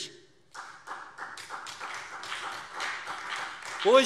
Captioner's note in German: Beifall SPD